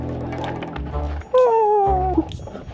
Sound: clown noises

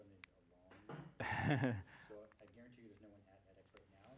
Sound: laugh

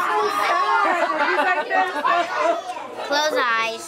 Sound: laughing

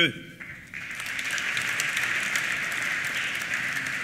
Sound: applause

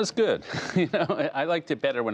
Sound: laughter

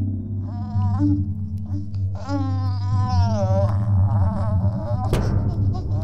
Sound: arm banging; creature cooing

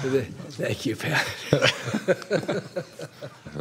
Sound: laughter

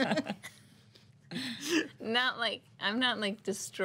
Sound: girls laughing

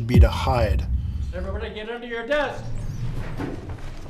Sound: professor shouting

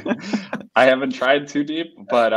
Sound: all laugh

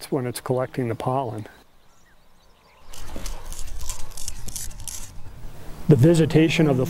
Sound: scraping sound

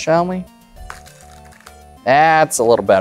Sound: cards riffling

